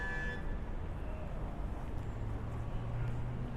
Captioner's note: traffic noises